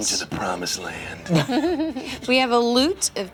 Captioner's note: laughter